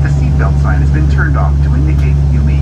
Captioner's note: overhead Announcement